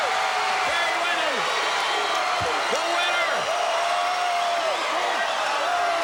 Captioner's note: crowd cheering